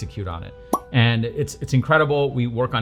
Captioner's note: pop